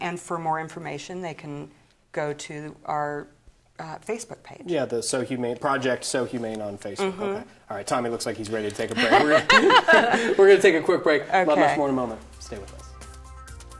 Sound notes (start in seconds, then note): 8.9 laughs